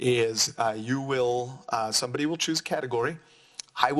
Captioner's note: none